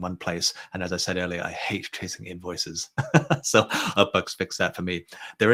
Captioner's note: chuckles